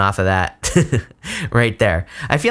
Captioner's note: giggles